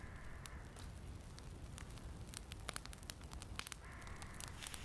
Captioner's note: fire crackling